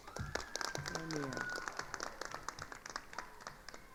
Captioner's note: attendees applauding